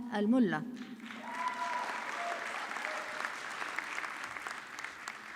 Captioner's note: audience clapping